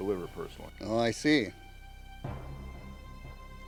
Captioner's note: none